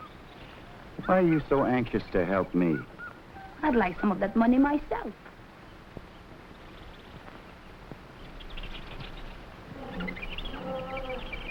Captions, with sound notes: - Why are you so anxious to help me? - I'd like some of that money myself. (animals chattering) (gorillas groaning)